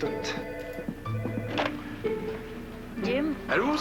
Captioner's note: Téléphone